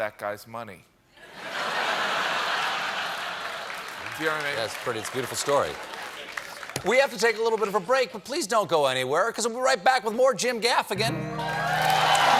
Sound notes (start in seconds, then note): 4.3 laughter; 11.1 cheers and applause